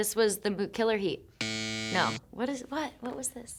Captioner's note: graphic buzzing